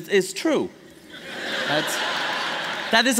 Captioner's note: laughter